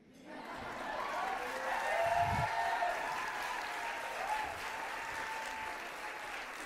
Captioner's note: audience applauding